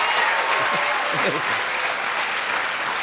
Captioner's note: cheers and applause; chuckling; cheers and applause continue